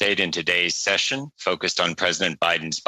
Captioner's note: speaking French